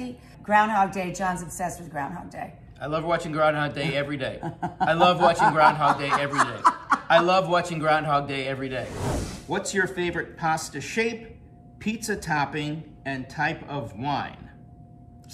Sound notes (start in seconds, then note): 4.4 Rachel chuckling; 6.4 Rachel laughing; 8.8 screen swooshing